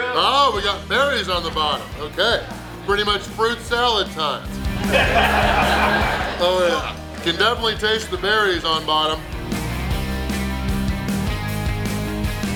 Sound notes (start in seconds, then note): 4.4 audience laughing; 9.8 upbeat music